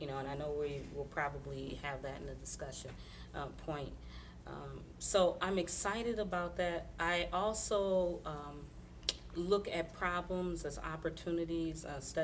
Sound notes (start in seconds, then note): none